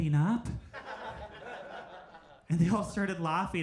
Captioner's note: crowd laughs